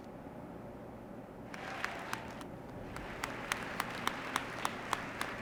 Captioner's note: audience applauding